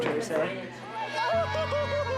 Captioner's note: cheering